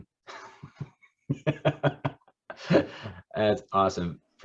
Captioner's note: laughing